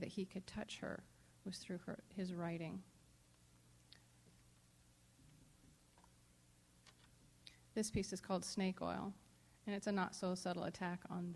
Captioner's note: silence